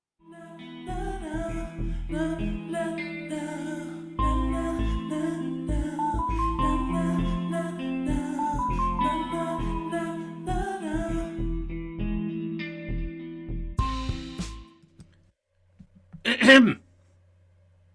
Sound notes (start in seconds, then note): 16.2 Malvolio clears throat